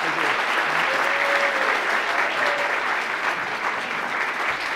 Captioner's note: applause